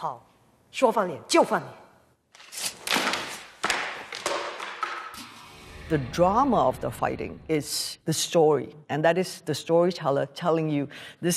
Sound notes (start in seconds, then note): 0.1 speaking Mandarin; 2.7 thudding